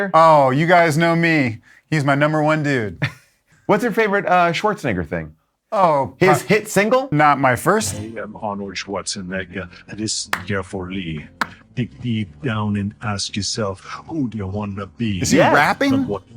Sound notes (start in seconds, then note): 10.3 claps